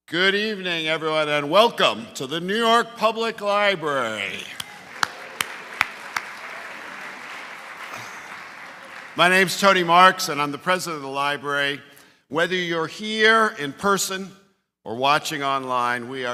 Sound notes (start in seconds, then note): 4.3 applause